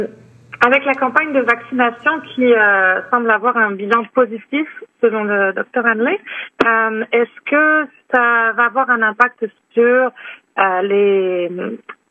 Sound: speaking French

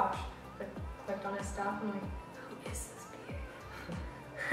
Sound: laugh

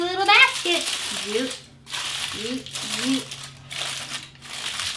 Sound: foil rustling

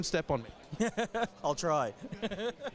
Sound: chuckles; laughs

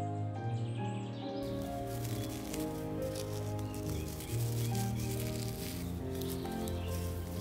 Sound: tea rustles

